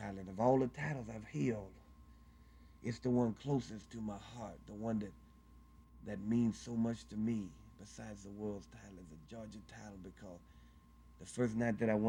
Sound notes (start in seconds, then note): none